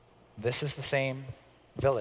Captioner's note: none